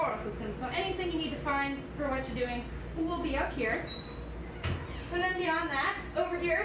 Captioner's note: shuts cabinet door